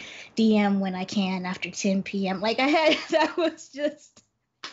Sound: laughs

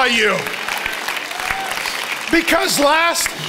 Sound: congregation applauds

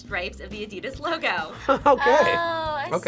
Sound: chuckles

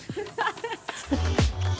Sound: chuckles; upbeat music

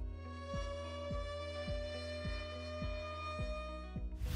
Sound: siren blares

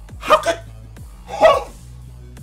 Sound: gasp

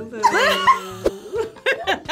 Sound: laughs

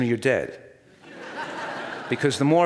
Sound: audience laughs

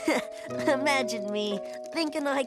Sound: chuckle

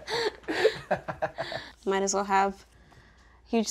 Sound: laughing

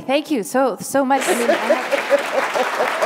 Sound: laughter; applause

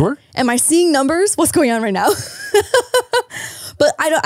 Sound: laughs

